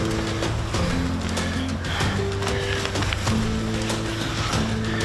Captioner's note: breathes heavily